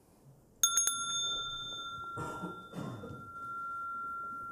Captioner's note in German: Mooji klingelt das Glöckchen